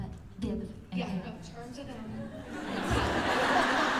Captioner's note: laughter